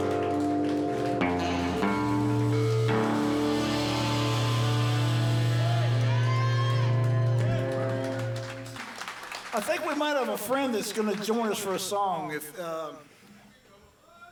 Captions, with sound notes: (guitar plucking) (audience cheering and applauding) I think we might have a friend that's gonna join us for a song if...